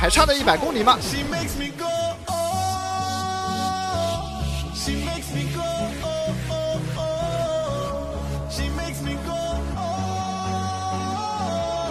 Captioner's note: excited cheering